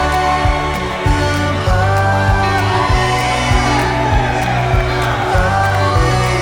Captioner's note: guests cheering